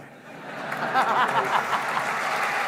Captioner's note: cheering